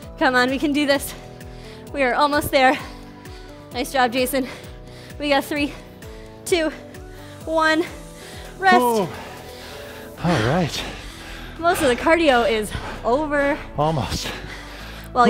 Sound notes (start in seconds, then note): 8.8 breaths heavily